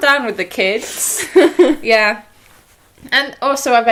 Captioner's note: laughs